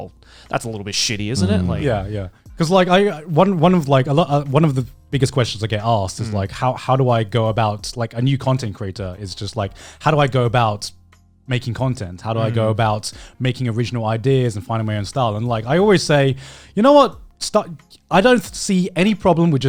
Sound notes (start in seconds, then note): 1.3 affirmative murmuring